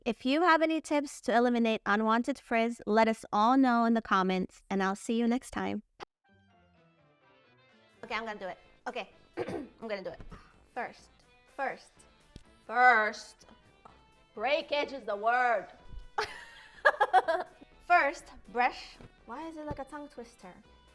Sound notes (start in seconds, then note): 16.2 laughing